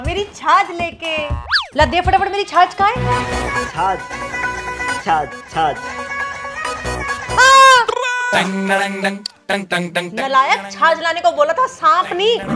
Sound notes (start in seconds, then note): 7.4 shouts; 7.5 laughing